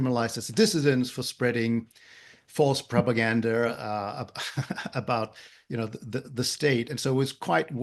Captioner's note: laugh